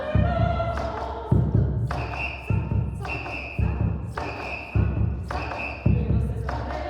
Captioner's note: whistles